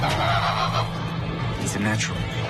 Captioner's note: LiMu squawks